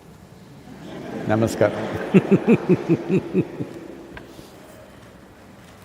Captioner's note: laughter